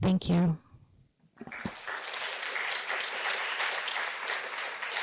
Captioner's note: applause